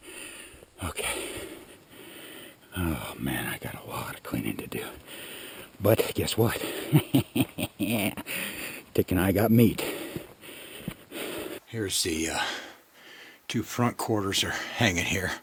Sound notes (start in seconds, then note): 6.6 laughing